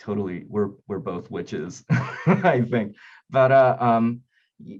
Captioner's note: laughing